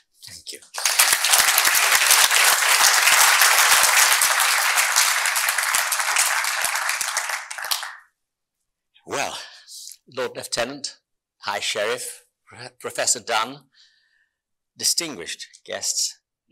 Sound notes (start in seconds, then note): 0.7 audience appluading